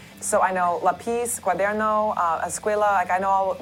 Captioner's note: speaking spanish